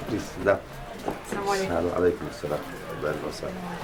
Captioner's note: non-english speech